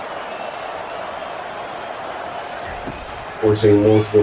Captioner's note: crowd Noises